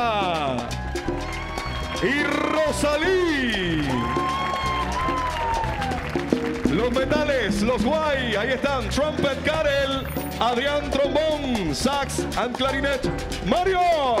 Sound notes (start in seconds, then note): 4.1 audience cheering; 7.0 MC speaking in Spanish